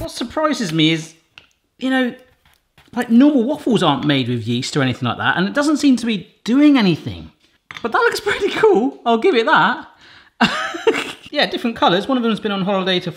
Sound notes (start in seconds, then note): 10.4 laughs